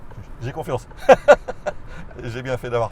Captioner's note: nervous laughter